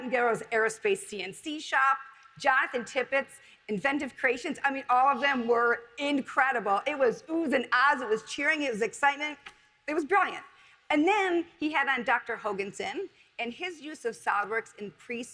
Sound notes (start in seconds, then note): none